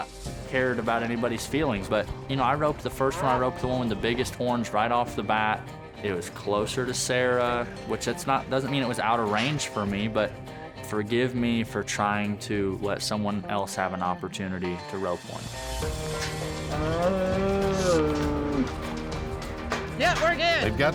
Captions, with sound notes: CARED ABOUT ANYBODY'S FEELINGS, BUT I ROPED THE FIRST ONE. I ROPED ONE OF THE BIGGEST HORNS RIGHT OFF THE BAT. IT WAS CLOSER TO SARAH. WHICH DOESN'T MEAN IT WAS OUT OF RANGE FOR ME, BUT FORGIVE ME FOR TRYING TO LET SOMEONE ELSE HAVE AN OPPORTUNITY TO ROPE ONE. [BELLOWS] YEAH, WE'RE GOOD!